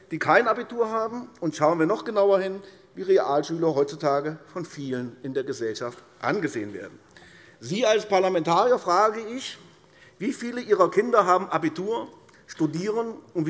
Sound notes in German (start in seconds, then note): none